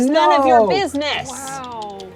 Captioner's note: pat